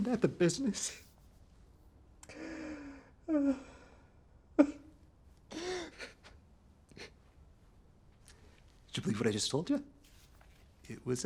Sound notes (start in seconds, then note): 4.6 man crying